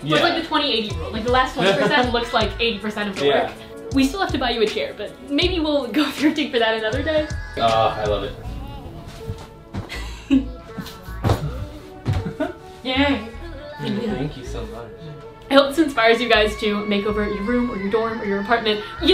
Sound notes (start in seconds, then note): 9.8 giggles; 12.0 giggles